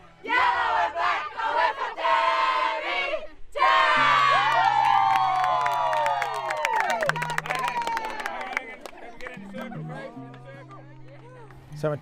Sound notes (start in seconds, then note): 3.6 cheering; 7.0 tranquil guitar music plays